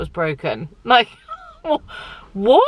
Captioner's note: laughing